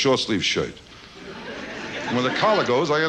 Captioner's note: audience laughs